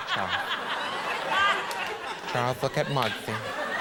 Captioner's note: audience laughing